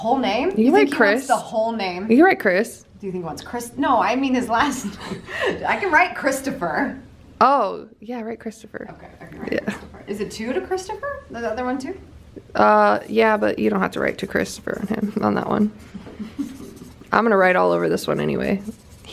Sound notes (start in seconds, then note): 5.3 laughs